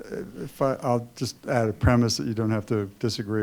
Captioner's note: voiceover